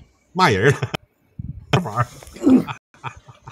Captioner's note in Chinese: 大笑